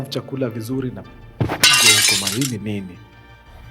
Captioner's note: plate breaks